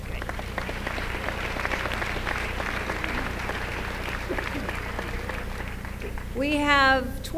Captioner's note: applause